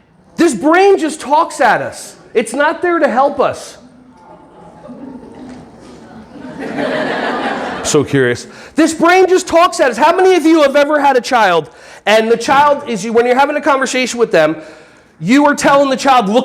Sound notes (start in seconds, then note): 3.8 audience laughing